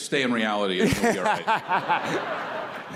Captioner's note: laughter